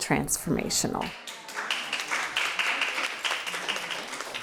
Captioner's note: crowd applauds